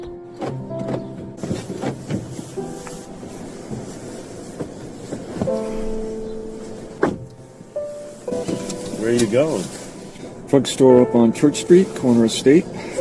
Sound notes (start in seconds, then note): 0.6 lock clicks; 7.3 car door bangs